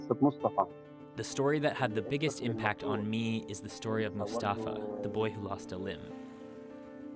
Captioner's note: speaking alternate language